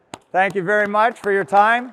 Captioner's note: audience applauds